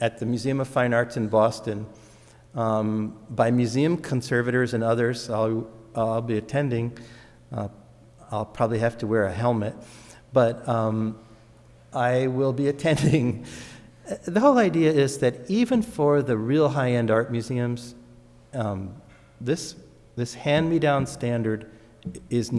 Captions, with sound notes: at the Museum of Fine Arts in Boston by museum conservators and others. I will, I'll be attending, I'll probably have to wear a helmet, but I will be attending (laughs). The whole idea is that even for the real high end art museums, this hand-me-down standard is not,